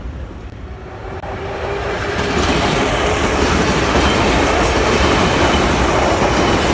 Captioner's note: train leaves to the next station